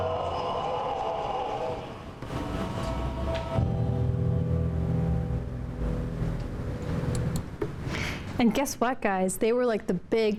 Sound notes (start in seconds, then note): 2.7 crowd cheers; 5.8 music fades out